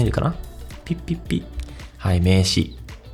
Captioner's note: boop, boop, boop